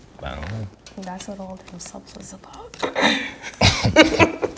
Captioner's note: clears throat; both laughing